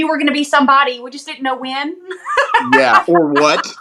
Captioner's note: laugh